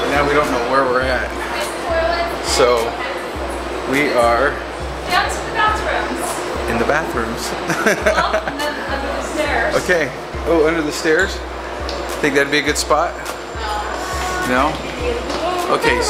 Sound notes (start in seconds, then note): 7.6 laughing